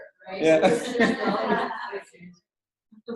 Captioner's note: laughter